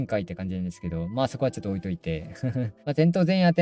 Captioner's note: laughs